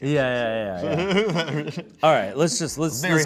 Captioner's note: everyone laughs